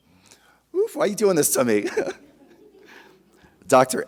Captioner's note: chuckles